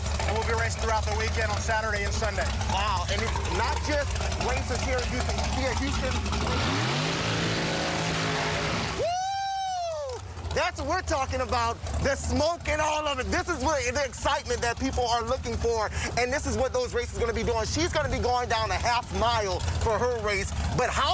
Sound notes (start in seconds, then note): 14.8 engine Roaring